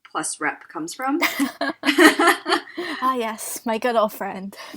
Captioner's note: laughs